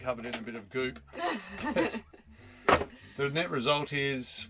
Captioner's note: laughing